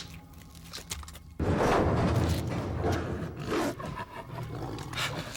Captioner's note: Max growls